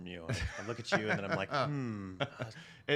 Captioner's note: laughs